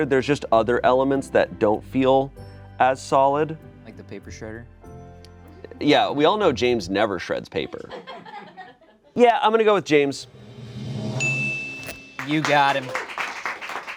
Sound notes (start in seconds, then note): 11.2 bell dings